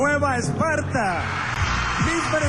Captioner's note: audience cheering